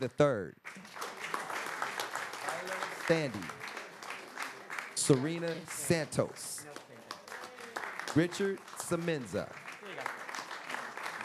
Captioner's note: applause